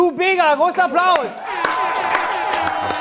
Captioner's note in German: Jubel, Applaus